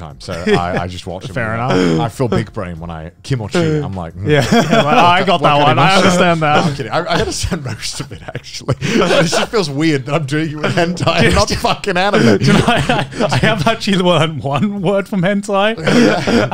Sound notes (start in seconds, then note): 3.4 speaks Japanese; 4.3 everyone laughs